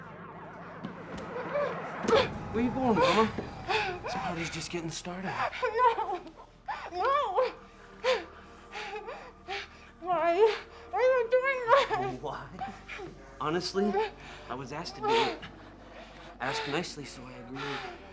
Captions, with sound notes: (Michelle screaming) - Where you going mama? This party is just getting started. - No. No. Why? Why are you doing that? - Why? Honestly, I was asked to do it. Asked nicely so I agreed.